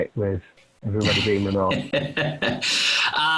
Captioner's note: laughing